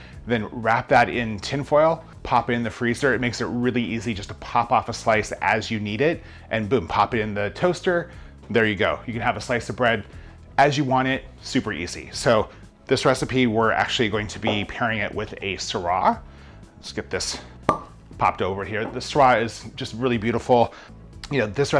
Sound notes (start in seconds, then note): 17.6 cork popping